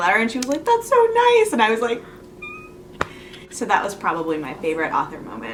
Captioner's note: squeals